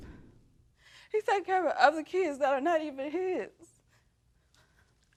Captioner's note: sighs; voice breaking